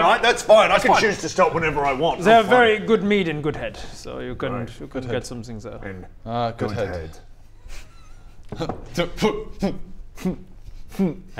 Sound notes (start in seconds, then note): 8.5 sniggering